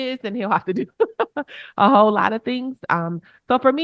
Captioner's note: chuckles